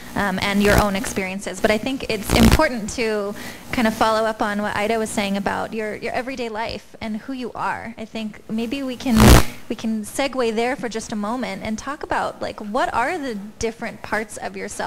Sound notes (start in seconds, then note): none